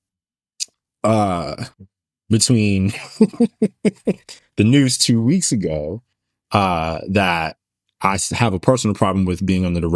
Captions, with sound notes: between (Laughs) the news two weeks ago that I have a personal problem with being under the